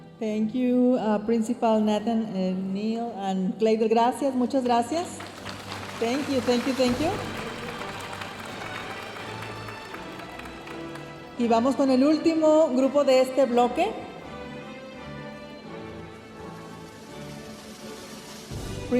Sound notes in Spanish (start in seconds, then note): 0.2 hablando en inglés; 6.1 hablando en inglés; 8.1 aplausos de la audiencia; 14.4 continúa la música majestuosa suave en el fondo